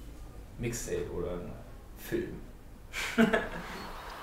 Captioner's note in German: lachen